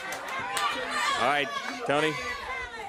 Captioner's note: crowd chatter; crowd cheering